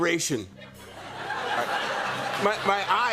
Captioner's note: laughter